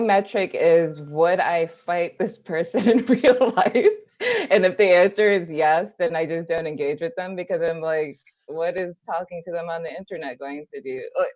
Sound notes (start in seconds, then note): 4.2 laughs